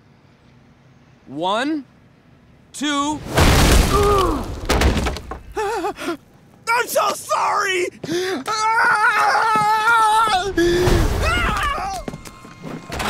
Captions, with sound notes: One. Two. Ah. I'm so sorry! [screaming]